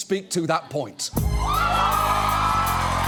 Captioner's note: audience cheering, applauding